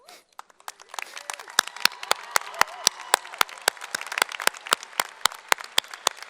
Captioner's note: applause